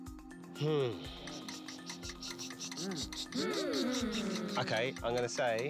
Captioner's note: mimics clock ticking